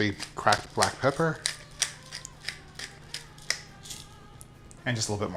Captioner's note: pepper grating